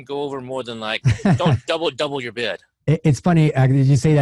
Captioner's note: chuckles